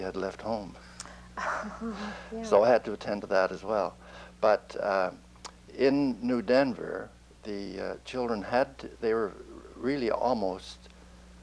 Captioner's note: laughs